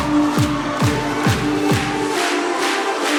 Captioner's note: audience clapping in time